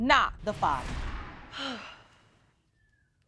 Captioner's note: exhales